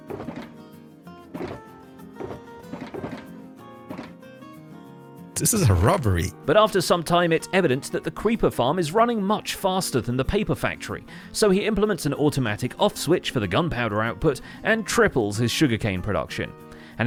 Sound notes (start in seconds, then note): 5.3 shulker boxes opening and closing